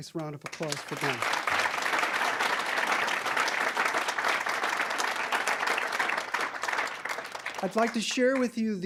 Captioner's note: applause